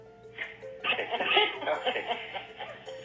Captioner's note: laugh